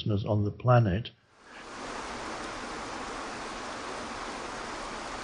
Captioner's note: water sloshing